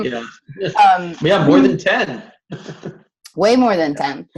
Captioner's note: laughs